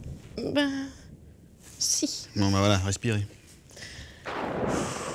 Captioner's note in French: Respiration